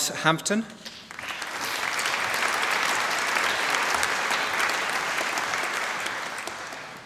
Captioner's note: applause